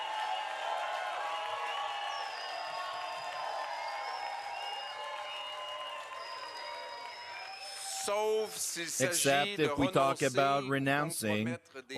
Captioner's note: cheering and Applause